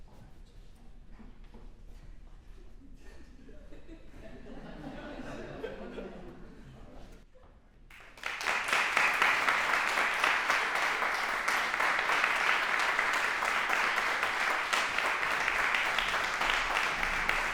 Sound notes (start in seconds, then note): 4.7 laughter; 8.4 applause